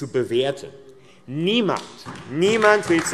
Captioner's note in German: Beifall AfD